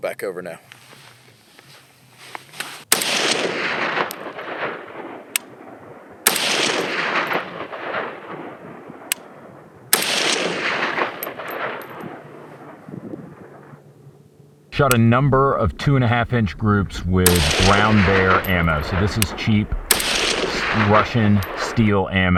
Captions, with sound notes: Roll back over now. (gun shots) Shot a number of 2.5 inch groups with round bear ammo. So this is cheap Russian steel ammo.